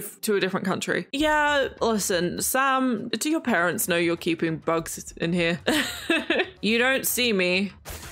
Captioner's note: laughs